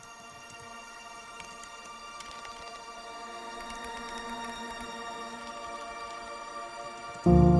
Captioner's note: keystrokes